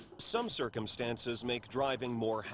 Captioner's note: voiceover